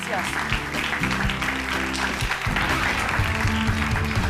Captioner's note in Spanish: aplausos